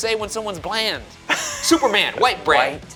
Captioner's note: laughing